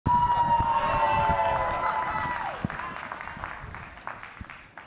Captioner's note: cheering